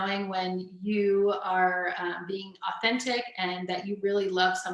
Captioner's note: none